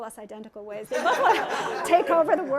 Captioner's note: laughter